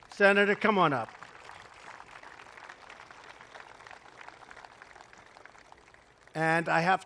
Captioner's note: applause